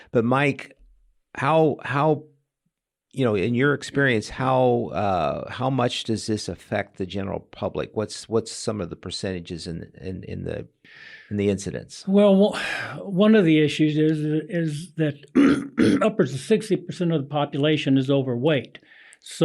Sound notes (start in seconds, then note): 15.3 clears throat